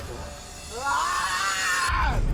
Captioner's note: yells